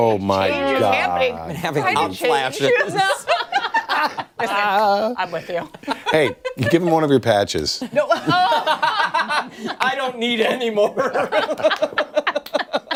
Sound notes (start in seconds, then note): 7.8 laughter